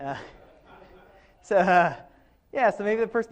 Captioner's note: speaker and audience laughs